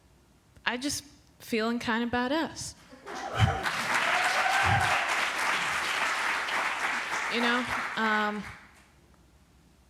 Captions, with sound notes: I'm just feeling kind of badass. [APPLAUSE]